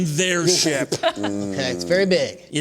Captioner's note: laughter